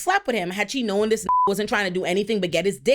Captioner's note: beep